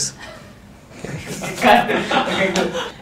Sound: laughter in studio

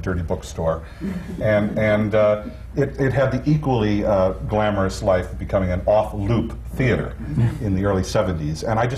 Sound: laughter

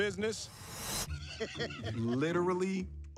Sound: laughing

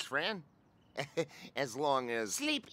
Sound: nervous chuckle

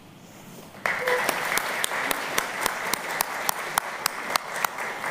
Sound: applause

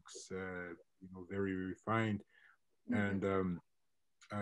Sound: mutters

